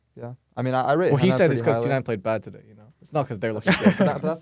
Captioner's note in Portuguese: risos